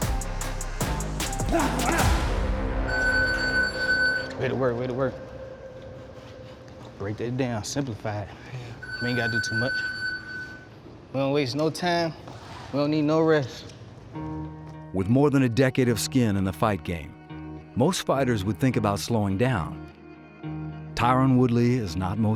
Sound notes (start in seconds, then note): 2.8 timer beeps